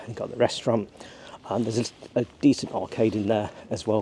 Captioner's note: none